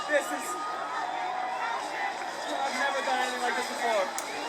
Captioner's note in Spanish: Aplausos